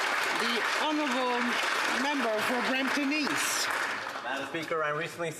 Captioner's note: some Applause